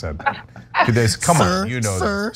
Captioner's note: laugh